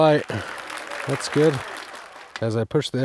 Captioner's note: hands clapping